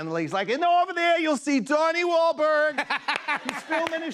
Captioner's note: laughter